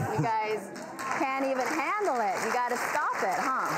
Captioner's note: audience applauds